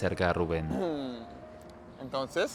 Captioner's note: Rubén carraspea